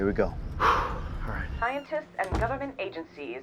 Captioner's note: exhale